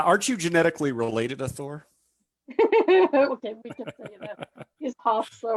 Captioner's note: laughs